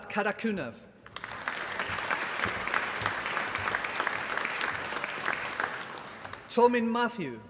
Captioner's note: applause